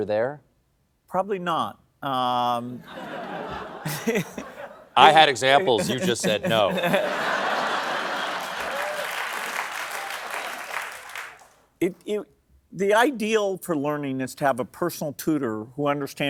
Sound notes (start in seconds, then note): 3.4 laughs; 10.5 applause